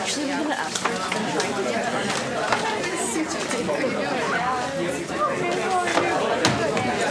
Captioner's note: indistinct conversation